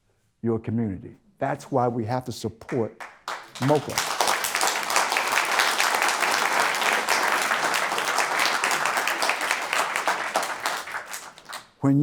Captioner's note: applause